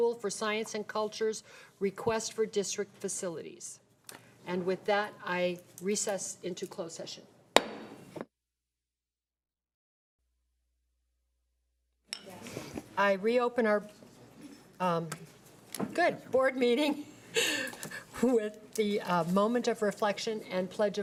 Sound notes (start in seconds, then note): 7.6 gavel thuds; 17.7 laughs